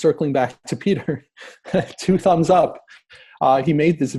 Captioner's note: laughing